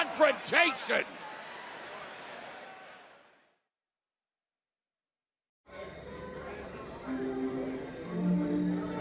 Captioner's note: crowd chatter